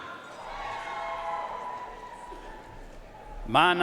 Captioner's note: audience cheering and applauding